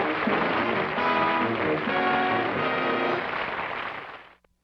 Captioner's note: applause